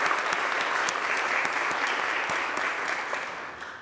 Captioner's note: applause